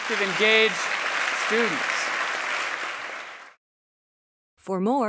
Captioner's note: applause